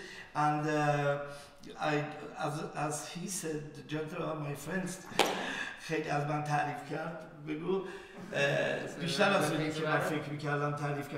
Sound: speaking in farsi

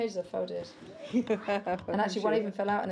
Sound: laughs

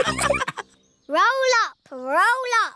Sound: all laughing

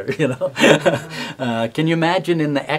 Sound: laughing

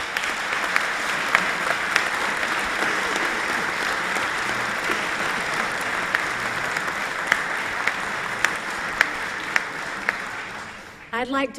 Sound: applause

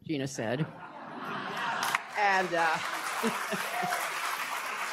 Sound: laughter, applause

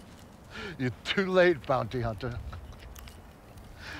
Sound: none

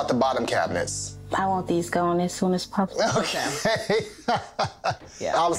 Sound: laughing

